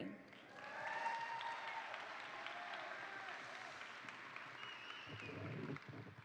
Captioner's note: attendees applaud; attendees cheer